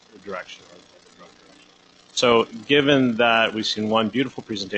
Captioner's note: audio fading in and out